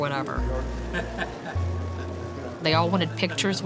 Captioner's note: man laughs